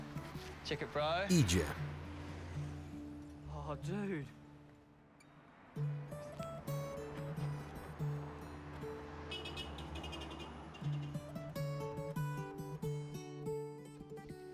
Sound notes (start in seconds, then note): 5.4 soft music; 9.2 car honks; 11.0 soft music